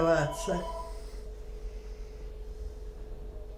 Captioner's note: phone ring